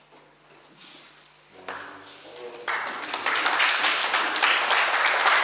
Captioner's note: oklaski